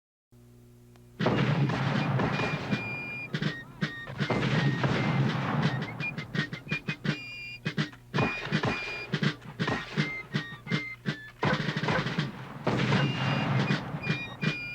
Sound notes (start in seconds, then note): 0.3 patriotic fife and drum music; 3.5 mortar fire booming; 7.7 musket fire popping; 11.4 mortar fire booming